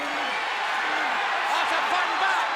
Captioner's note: audience cheers